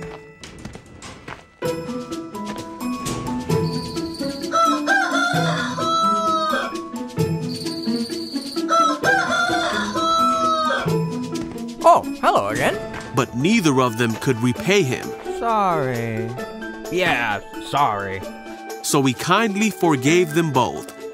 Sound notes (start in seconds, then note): 0.2 light music; 4.3 rooster crowing; 7.4 crickets chirping; 8.5 rooster crowing